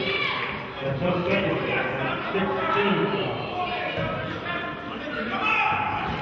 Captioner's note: murmurs